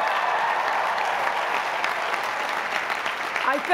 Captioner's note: applause